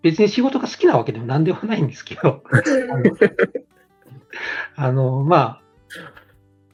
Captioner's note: laughs